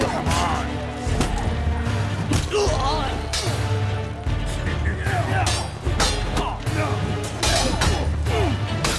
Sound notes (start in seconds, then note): 3.6 groan